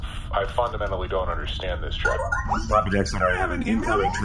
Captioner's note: communicator chimes